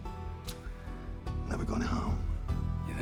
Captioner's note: scottish accent